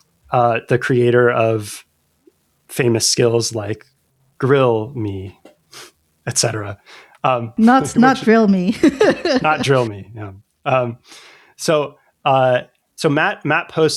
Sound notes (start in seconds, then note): 0.1 uh; 8.7 laughter; 10.7 uh